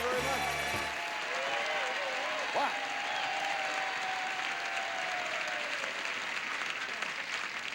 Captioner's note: audience applauding